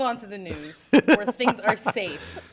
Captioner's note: laughter